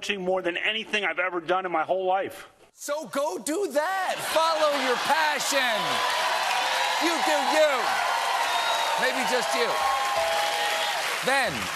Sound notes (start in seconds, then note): 6.7 cheers and applause